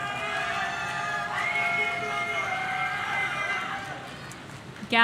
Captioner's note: audience cheering